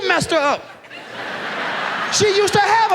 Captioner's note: audience laughs